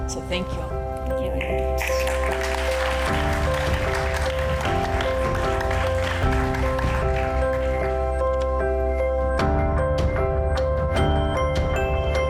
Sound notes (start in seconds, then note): 1.7 audience applauds; 2.1 bright music